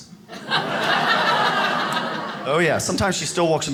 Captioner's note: audience laughs